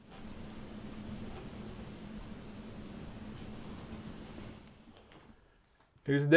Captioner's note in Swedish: Kamera mikrofonen fångade knarrande steg